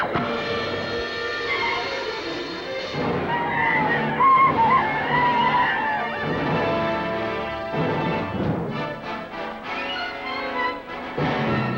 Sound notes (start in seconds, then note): 0.1 arrow whooshes; 0.1 ominous orchestral music; 2.9 Indians howl